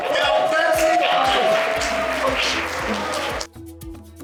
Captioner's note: applause